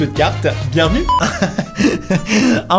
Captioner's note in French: rires